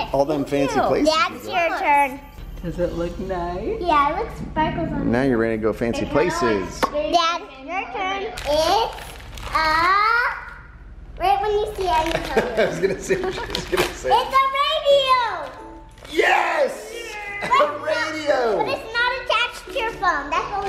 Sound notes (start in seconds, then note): 12.2 dad laughing